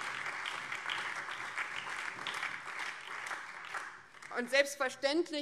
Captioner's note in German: Beifall BÜNDNIS 90/DIE GRÜNEN und vereinzelt CDU und SPD